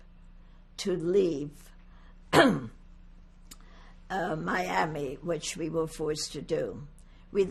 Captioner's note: clears throat